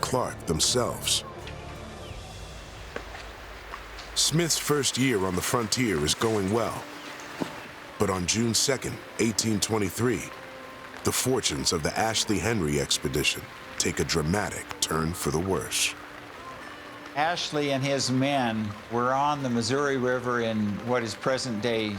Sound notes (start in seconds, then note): 2.8 footsteps